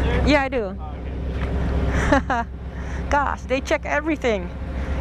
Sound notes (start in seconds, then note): 1.8 chuckles